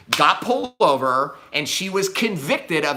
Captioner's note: hands clap